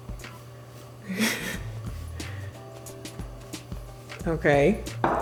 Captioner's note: laughs